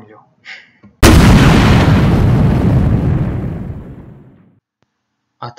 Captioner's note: Zwuk vybohu